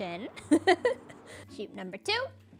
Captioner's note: laughs